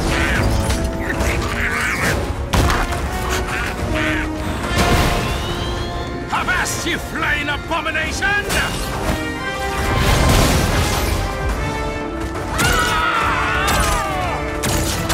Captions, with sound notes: [Mangey snarling] Avast, ye flying abomination! [group yelling]